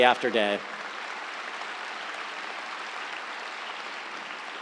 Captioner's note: audience applauds